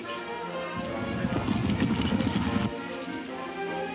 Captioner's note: hooves thudding